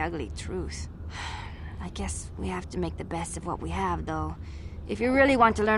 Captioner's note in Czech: povzdych